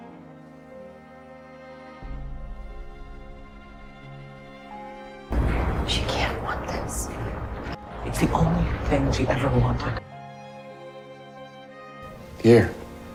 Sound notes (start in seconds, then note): 6.0 voiceover